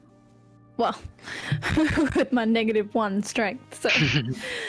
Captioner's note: giggle; chuckles